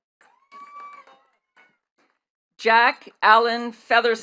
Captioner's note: attendees cheering and clapping